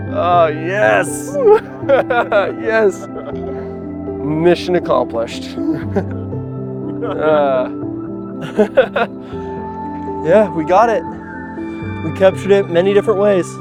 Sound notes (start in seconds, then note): 1.4 laughter; 8.4 laughs